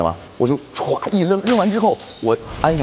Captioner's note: smashes the glass